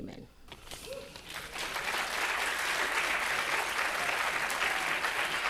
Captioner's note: audience applauding